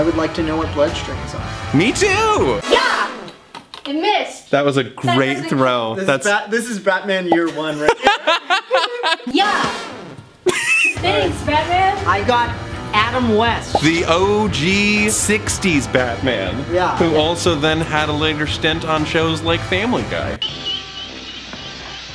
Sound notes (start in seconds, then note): 7.4 laughs